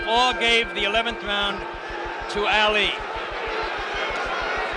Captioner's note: bell sounds